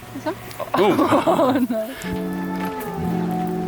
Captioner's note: both laughing